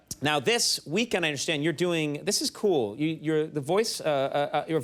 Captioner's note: none